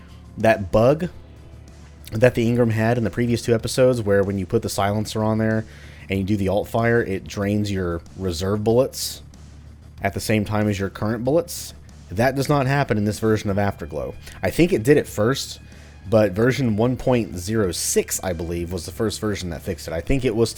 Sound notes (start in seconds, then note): none